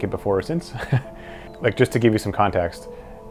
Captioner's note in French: des rires